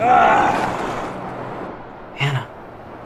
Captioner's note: Satan groaning